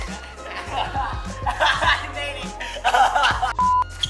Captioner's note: laughing